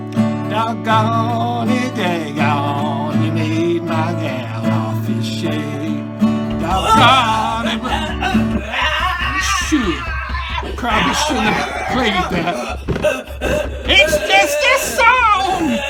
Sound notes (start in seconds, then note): 6.4 shouts and banging